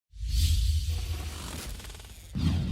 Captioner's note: whoosh